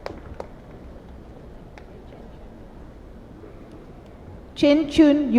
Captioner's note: cheers and applause